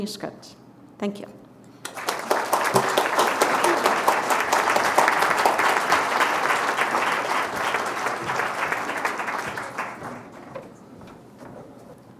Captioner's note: applause